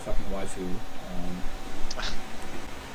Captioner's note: chuckling